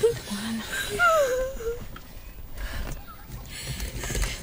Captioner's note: Crying Continues